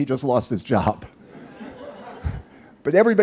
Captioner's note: laughter